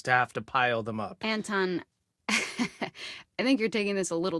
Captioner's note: Grace laughs